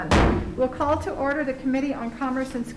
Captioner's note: gavel striking